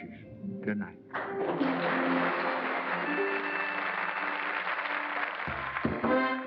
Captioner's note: applause